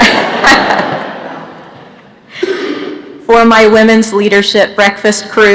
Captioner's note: laughter